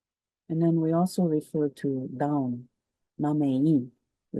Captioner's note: speaks in Cree